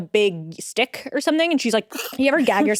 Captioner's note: imitates dog gagging